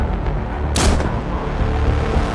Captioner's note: gunshot